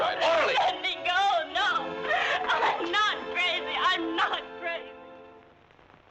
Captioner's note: sobbing